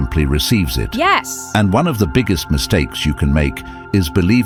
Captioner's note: AI Voice